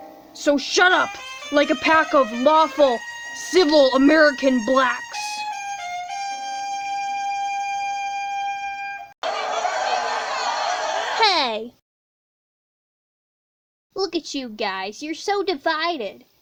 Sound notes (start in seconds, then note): 9.3 shouting continues